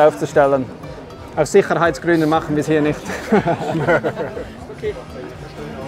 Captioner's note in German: lacht